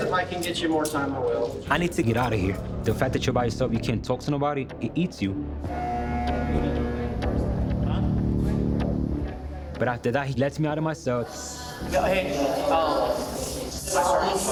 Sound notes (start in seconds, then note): 6.0 door buzzes